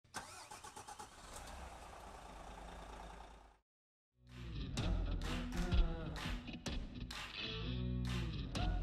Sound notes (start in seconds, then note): 0.1 engine whirs